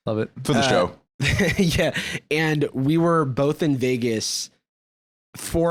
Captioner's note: laughs